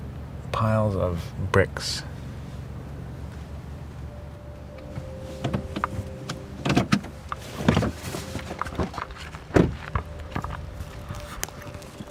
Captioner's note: car door opens, footsteps on rubble and bricks being picked up and dropped